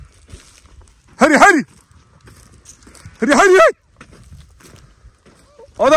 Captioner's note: calling to the sheep